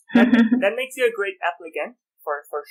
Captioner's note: laughter